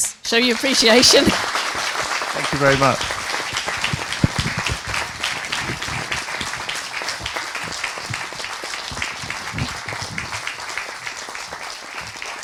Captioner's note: applause